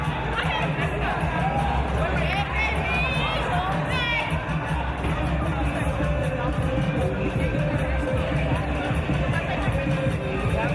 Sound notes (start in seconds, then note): none